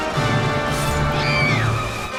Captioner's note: Robot Chicken screams